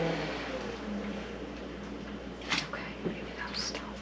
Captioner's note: whispers